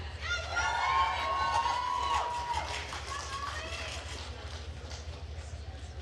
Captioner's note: attendees cheering and applauding